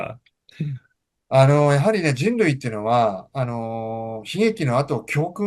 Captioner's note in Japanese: 咳払い